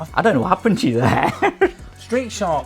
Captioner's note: chuckles